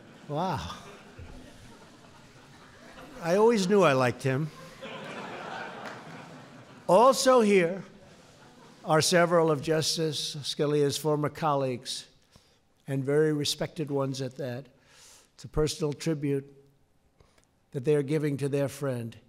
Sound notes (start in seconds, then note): 0.0 laughter; 4.4 laughter